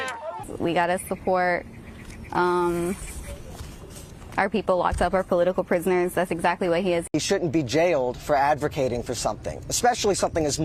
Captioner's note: chanting free, free palestine